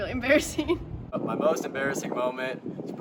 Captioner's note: chuckles